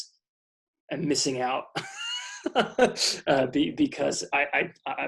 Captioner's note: laughs